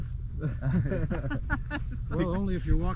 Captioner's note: all chuckling